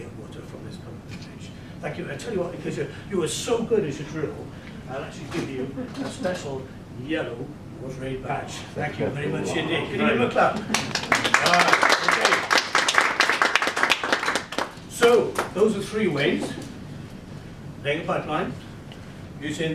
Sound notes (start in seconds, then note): 9.0 audience applause